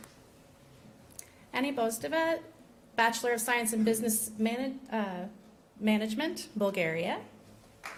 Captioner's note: applause